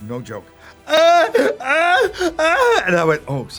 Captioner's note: screaming